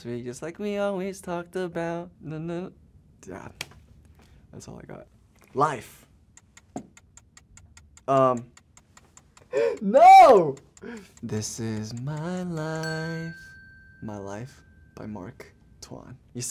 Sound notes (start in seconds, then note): 6.4 timer ticking; 12.3 bell rings